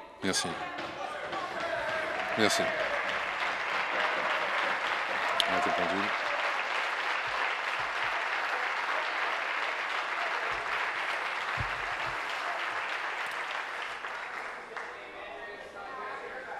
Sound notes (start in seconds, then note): 5.9 applause; 13.8 continued applause